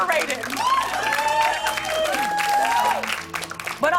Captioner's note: cheers and applause